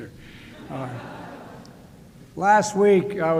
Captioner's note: laughter